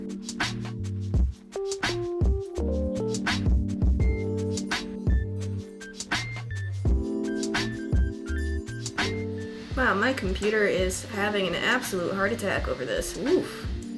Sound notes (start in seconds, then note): 0.2 chill beats; 9.5 laptop fans